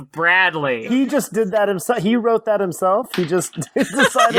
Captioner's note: through laughter